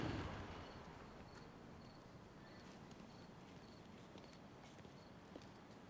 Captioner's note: crickets chirping; footsteps tapping